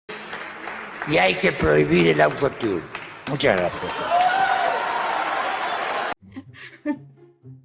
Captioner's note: applause